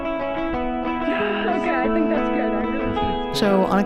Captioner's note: timid guitar music; laughs